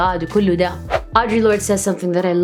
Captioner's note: foreign language